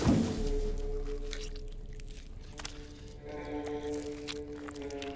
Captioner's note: munching sounds